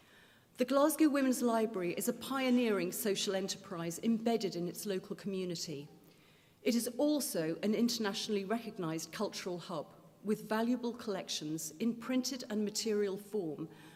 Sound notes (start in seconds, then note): none